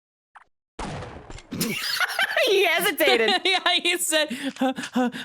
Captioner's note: laughs